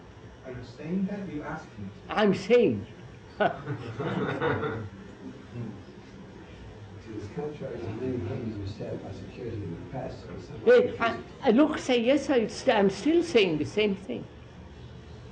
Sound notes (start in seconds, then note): 3.4 laughter; 3.4 laughs